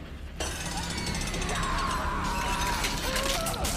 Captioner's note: gears ticking